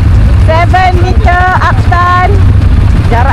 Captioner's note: speaking German